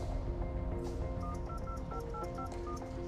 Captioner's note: dialing